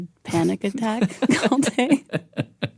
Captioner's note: laughs